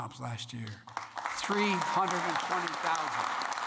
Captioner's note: applause